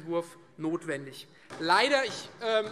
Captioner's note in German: Beifall SPD